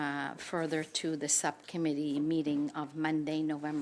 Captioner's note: speaking French